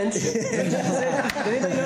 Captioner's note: laughter